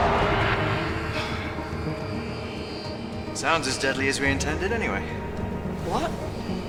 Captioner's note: creature growling; sighing